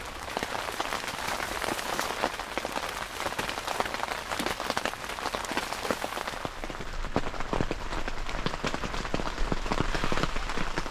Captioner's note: rain